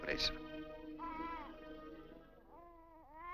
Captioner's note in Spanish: bell ringing